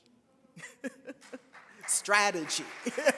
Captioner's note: laughs